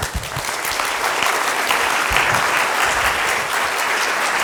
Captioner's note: applause